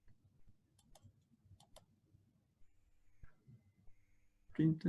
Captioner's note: mouse clicking